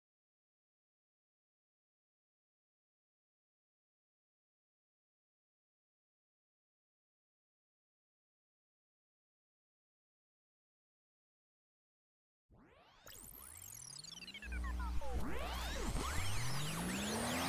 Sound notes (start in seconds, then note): 13.0 tape rewinding